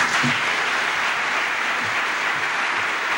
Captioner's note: applause